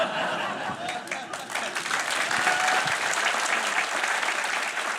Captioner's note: laughter; applause